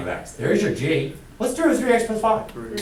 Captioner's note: voiceover